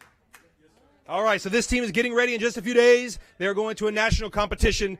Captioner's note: applause